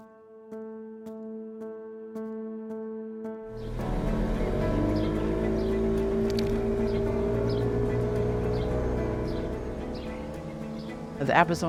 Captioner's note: boat motor and birds chirping